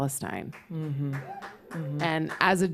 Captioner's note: applause